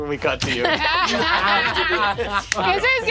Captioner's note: players laughing